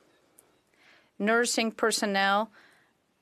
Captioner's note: speaking FRENCH